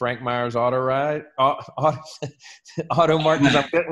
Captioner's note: laughs